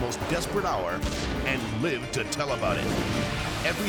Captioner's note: explosion booms